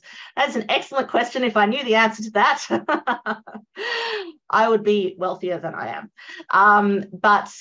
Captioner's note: laughs